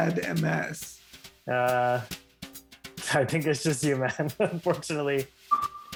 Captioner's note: chuckles